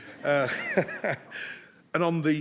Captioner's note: people laughing